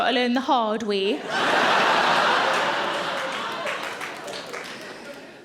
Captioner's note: audience laughing